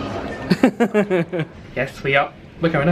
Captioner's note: laughs